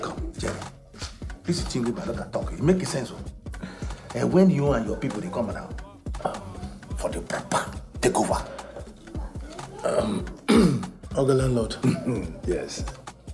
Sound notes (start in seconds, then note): 8.0 foreign language